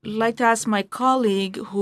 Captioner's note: speaking in French